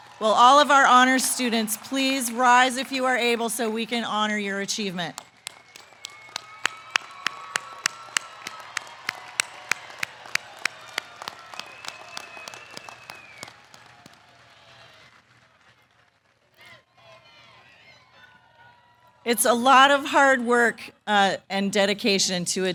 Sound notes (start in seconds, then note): 6.0 applause